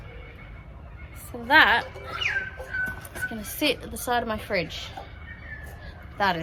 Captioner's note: kookaburras call loudly in the distance